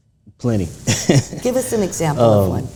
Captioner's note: chuckles